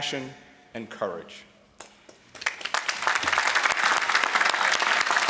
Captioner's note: applause